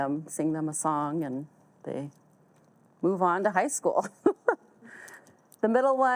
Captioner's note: chuckles